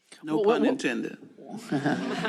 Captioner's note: laughter